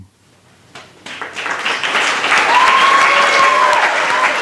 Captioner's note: applause